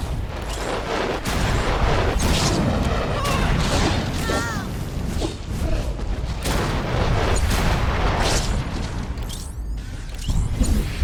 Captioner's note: explosion